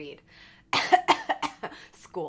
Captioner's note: coughs